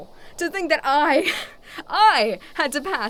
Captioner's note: scoffs